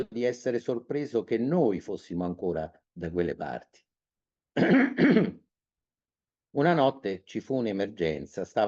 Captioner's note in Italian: schiarire la voce; tosse